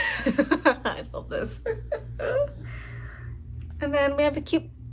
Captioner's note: laugh